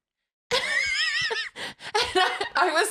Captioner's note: laughs